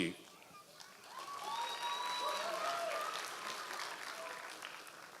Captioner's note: audience applause